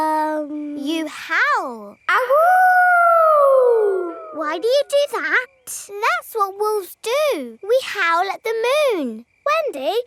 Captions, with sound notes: -Um... -You howl. (HOWLING) Why do you do that? That's what wolves do, we howl at the moon!